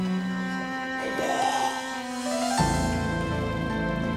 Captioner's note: vomiting